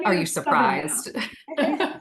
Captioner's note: laughs